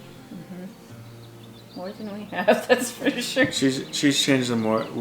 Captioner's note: chuckling